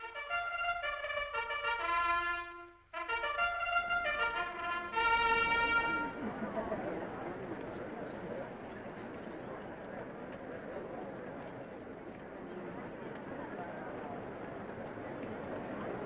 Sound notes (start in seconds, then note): 0.0 triumphant music; 6.3 attendees chattering